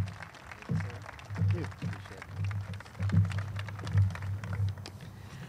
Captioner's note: group claps